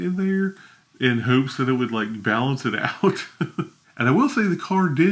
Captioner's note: laughs